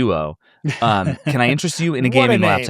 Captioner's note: chuckles